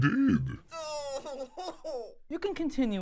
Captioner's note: cries